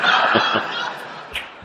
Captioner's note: laughter